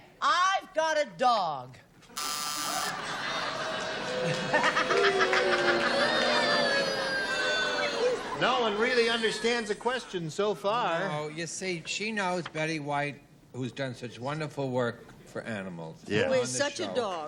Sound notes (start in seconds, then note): 2.1 buzzer; 5.7 laughs; 7.2 booing